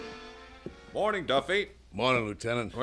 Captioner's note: door closes